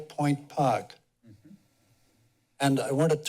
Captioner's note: pause